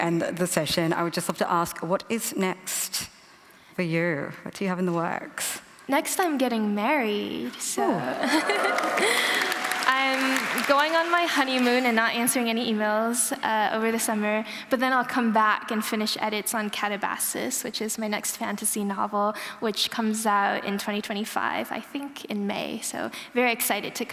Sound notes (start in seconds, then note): 8.0 cheering and applause